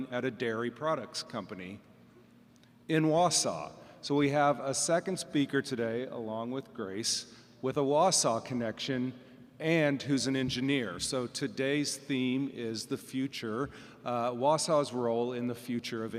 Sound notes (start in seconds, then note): none